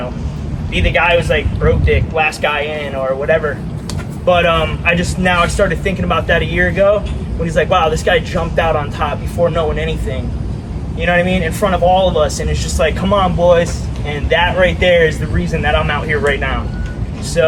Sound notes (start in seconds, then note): none